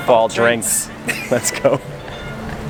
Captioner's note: laughing